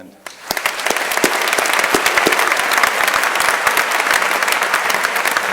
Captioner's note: crowd applauding